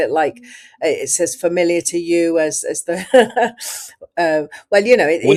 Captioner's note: laughs